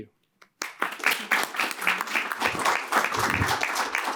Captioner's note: applause